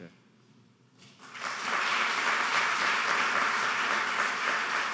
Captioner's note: applauding